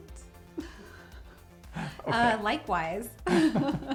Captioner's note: laughing